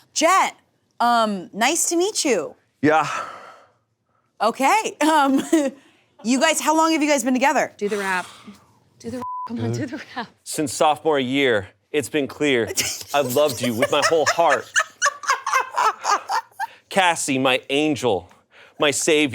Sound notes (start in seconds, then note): 5.3 laughs; 14.8 laughing